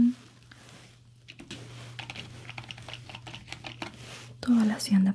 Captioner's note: typing sounds